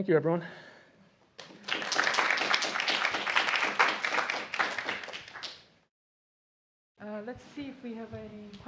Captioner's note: applause